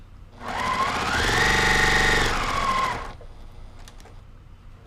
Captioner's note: machine whirring